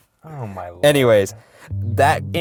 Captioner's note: voiceover